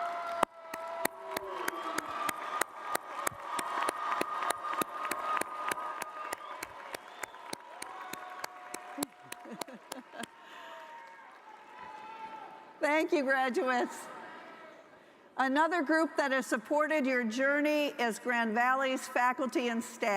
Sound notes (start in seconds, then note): 3.2 applause